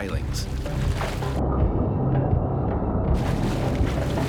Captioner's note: splashing